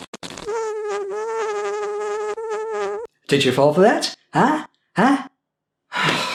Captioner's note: fart noise